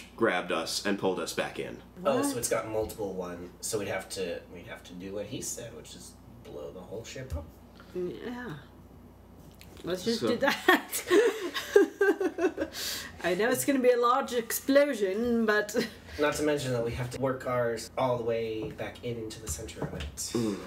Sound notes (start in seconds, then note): 11.2 laughs